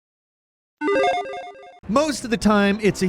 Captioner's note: video game chiming